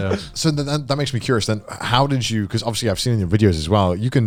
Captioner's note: all laughing